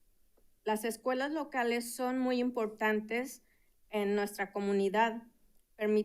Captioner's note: speaking in Spanish